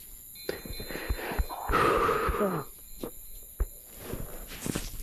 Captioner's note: chimes ringing